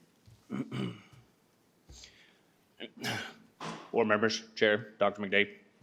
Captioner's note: clears throat